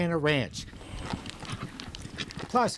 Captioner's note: horses galloping